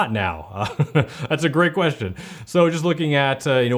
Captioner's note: laughs